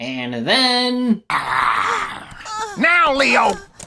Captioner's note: Leo growling threateningly, zebra panicking